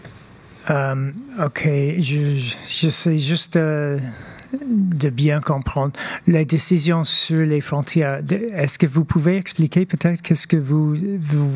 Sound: speaking French

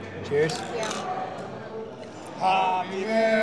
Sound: glasses clanking

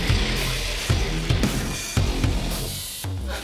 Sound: ghostly screeching; ghostly whispers; panting

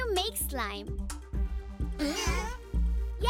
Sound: grunting

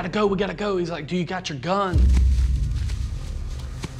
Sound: footsteps thumping

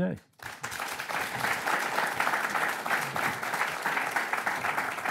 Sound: audience applauding

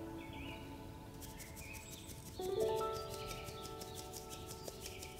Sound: sifting

